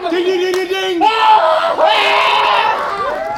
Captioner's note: screaming